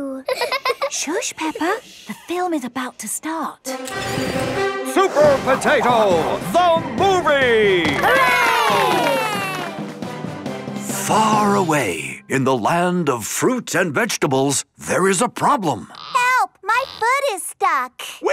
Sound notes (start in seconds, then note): 0.2 both laughing; 3.7 heroic music; 7.9 applause